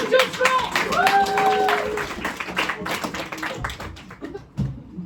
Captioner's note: cheers and applause